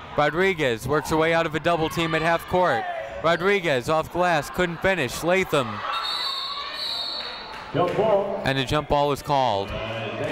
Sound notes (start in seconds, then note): 5.9 whistle tweeting